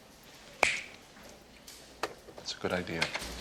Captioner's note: fingers snap